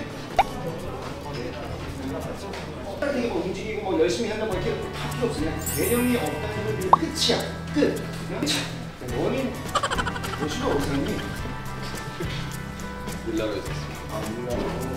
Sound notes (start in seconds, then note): 9.7 failed to hold his laughter haha